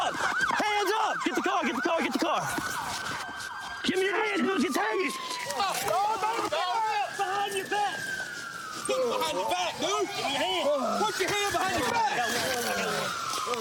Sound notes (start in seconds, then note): 3.8 yells